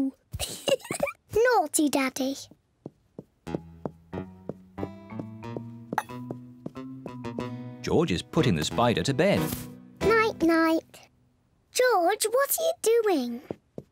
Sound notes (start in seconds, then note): 0.4 giggles; 1.2 in normal voice